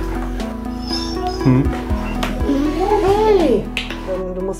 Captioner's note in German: Der Hund winselt